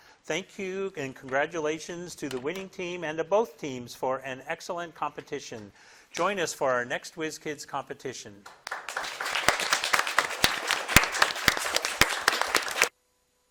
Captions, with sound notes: Thank you and congratulations to the winning team and to both teams for an excellent competition. Join us for our next Whiz Kids competition. (crowd claps)